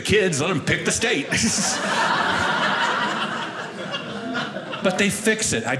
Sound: audience laughing

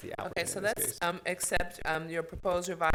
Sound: murmurs

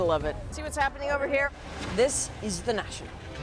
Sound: speaking foreign language

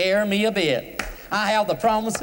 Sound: claps hands

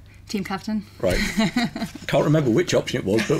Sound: laughs

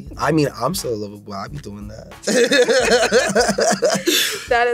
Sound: laughing

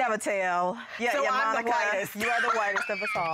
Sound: laughs

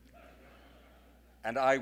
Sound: audience laughing

